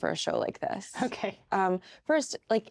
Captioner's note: chuckles